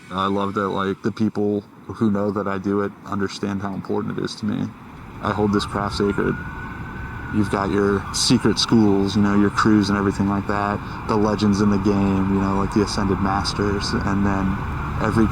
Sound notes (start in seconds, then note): none